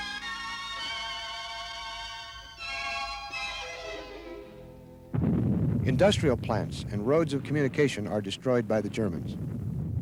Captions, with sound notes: (despairing music continues) (explosives boom) Industrial plants and roads of communication are destroyed by the Germans.